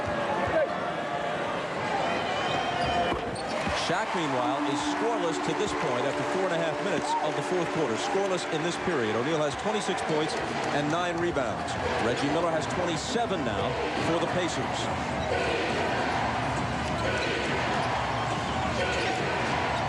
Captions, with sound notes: SHAQ MEANWHILE IS SCORELESS TO THIS POINT AFTER 4:30 OF THE FOURTH QUARTER, SCORELESS IN THIS PERIOD. O'NEAL HAS 26 POINTS AND 9 REBOUNDS. REGGIE MILLER HAS 27 NOW FOR THE PACERS. [CROWD CHANTING, "DEFENSE"]